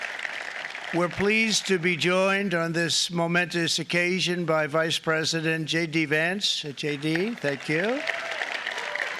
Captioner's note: applause